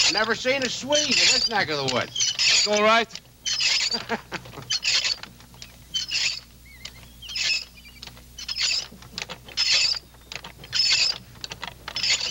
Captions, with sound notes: Never seen a Swede in this neck of the woods. - It's all right. (butter churn squeaking) (Royal chuckling)